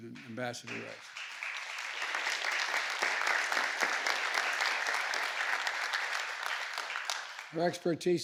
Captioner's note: applause